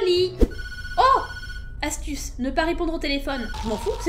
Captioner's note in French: sonnerie de téléphone